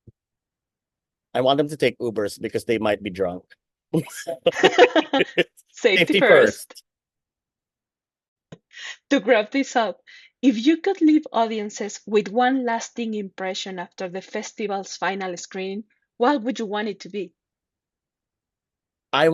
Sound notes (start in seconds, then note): 4.0 laughs